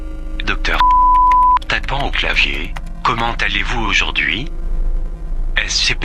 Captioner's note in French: Tapant au clavier